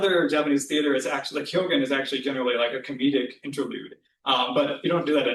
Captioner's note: japanese